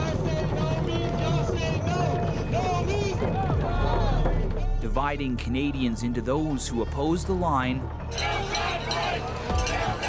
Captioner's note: chanting